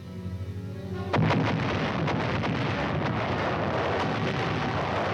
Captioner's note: cannons firing